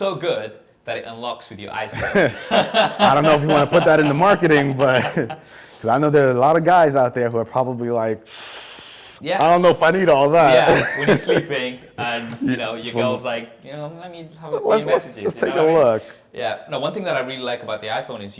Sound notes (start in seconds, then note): 1.9 both laugh; 8.2 inhales hesitantly